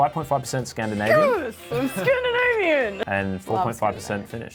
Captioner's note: chuckles